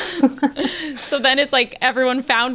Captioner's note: they laugh